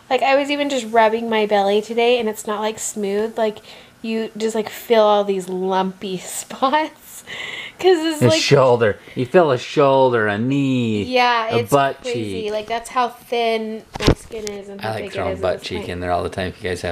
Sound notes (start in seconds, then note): 8.2 laughing